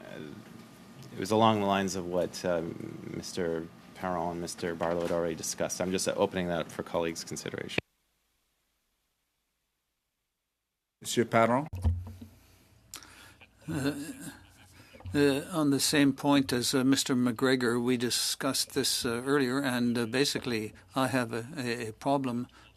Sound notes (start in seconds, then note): 17.5 speaking French